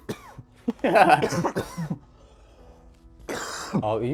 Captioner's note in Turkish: kahkaha